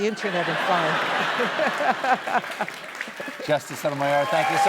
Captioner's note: laughs